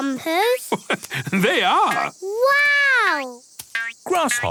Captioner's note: laugh